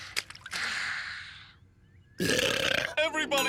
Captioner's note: sighing; burping